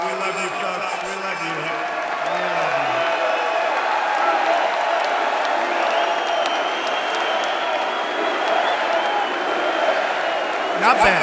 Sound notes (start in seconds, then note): 3.9 applause